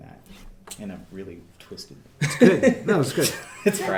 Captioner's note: laughing